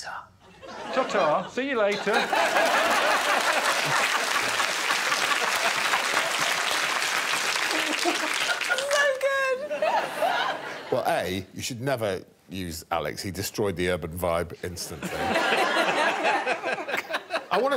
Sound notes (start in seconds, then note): 4.2 audience applauding; 4.2 audience laughing